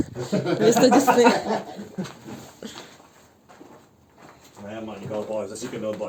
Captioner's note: laughter